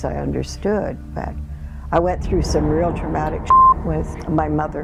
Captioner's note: beep